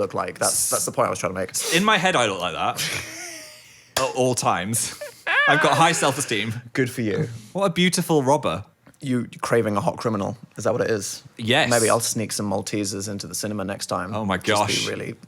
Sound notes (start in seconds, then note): 3.1 laughs